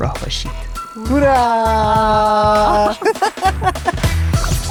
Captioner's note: laughs